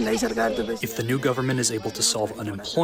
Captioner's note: through translator